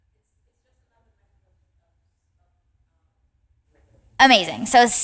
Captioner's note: participant faintly speaking